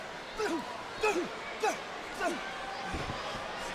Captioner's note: Punk grunts